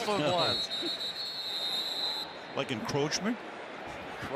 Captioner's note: whistle